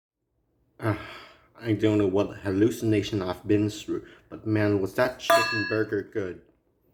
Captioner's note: sighs